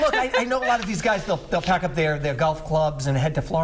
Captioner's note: laughter